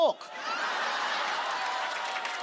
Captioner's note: laughter